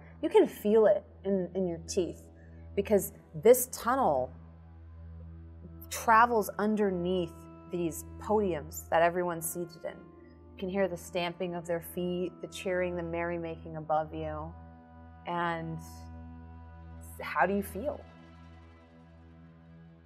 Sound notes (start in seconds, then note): none